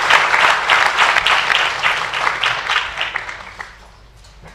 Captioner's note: applause